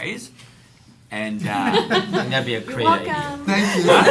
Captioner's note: laughter